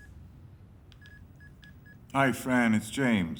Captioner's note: dialing